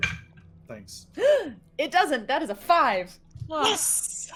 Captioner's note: gasping